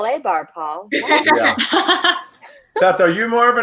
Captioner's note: laughing